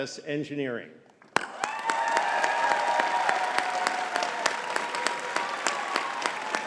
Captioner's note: audience cheering and clapping